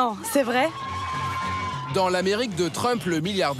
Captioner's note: hollers